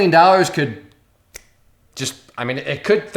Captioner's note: snaps fingers